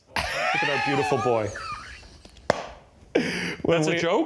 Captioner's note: laughing